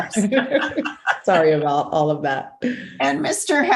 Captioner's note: laughter